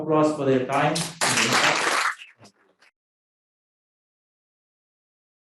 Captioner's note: audience applauding